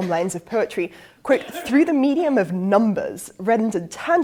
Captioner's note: cough